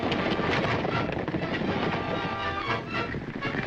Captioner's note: hooves thundering